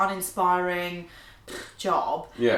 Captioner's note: lips vibrating